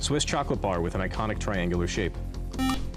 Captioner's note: beep